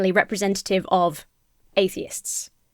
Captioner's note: none